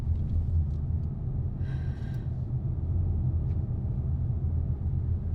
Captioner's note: breathing